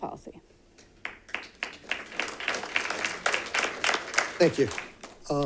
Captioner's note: audience claps